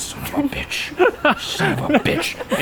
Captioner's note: laughs